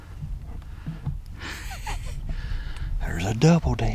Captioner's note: laughing